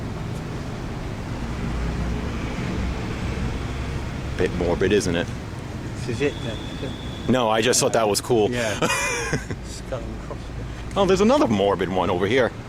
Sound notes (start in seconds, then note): 8.6 laugh